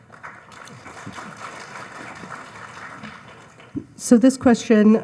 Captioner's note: audience applauds